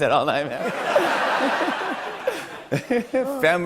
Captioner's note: laughter